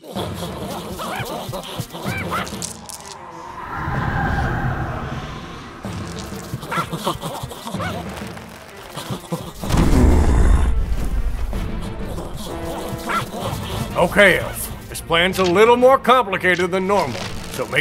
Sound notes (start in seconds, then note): 0.9 goblin Running Noises; 5.8 More Goblin Running Noises; 9.1 Yet Additional Goblin Running Noises; 9.6 goblin stomping noise